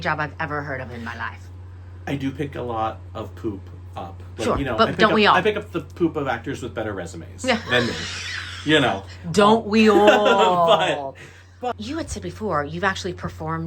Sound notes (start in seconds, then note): 9.7 laughs